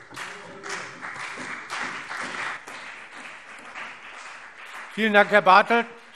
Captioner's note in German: Beifall CDU und BÜNDNIS 90/DIE GRÜNEN